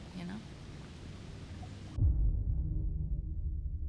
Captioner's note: low rumble